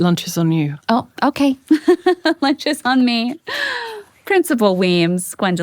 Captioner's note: laughing